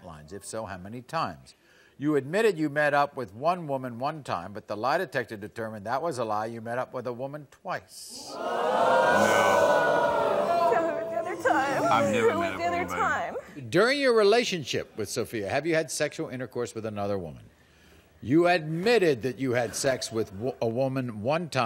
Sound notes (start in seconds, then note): 8.2 audience gasps